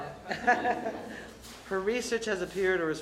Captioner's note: laughter